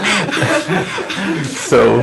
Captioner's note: laughter